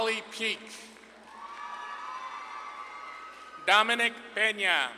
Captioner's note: audience claps and cheers